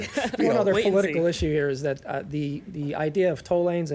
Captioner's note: laughter